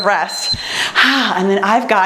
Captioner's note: timer beeps; exhales heavily